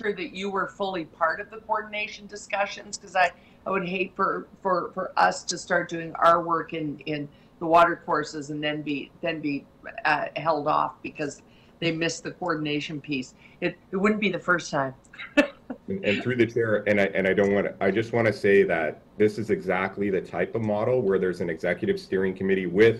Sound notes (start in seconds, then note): 15.2 laughs